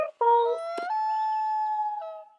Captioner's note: loon call